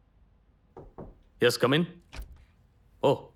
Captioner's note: knocking on the door